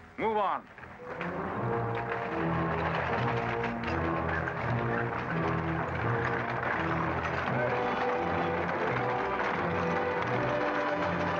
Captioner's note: carriages rattling; ominous music